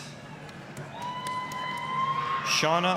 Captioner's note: applause, cheering